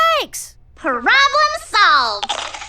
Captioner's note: chomps and chews